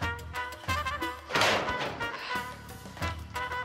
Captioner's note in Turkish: Kapı sesi